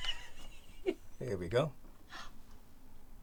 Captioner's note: laughing